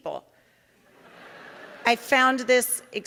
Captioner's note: audience laughing